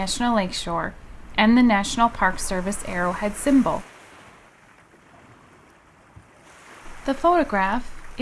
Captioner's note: waves